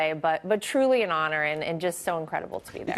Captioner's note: laughter